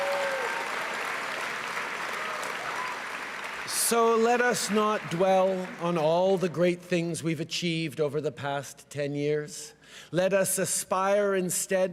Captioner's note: cheering and applause